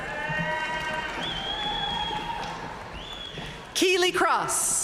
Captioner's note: audience cheering and applauding